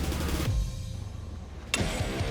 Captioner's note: slashing